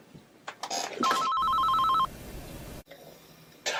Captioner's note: phone ringing